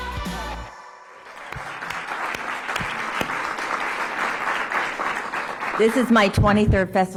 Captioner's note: applause